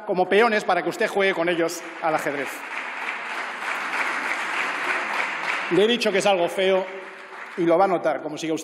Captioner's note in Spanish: Aplausos